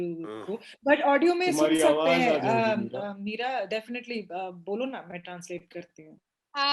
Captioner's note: speak foreign language